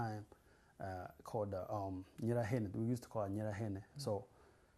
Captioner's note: non-english